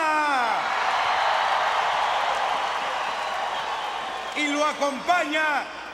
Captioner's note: applause